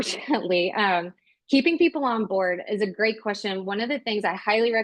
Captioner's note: chuckles